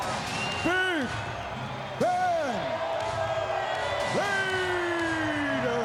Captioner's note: crowd clamoring